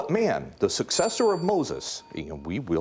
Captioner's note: bell dinging